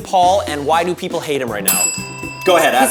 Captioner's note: bell rings